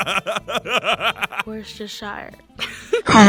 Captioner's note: laughter; giggles